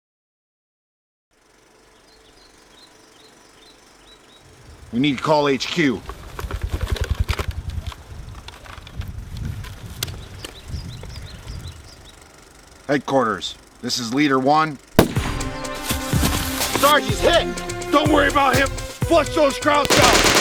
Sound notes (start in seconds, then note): 2.2 birds chirping; 14.9 gunshot bangs; 15.0 fast-paced tense music